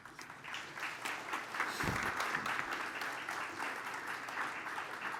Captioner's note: applause